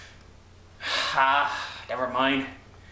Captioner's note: sigh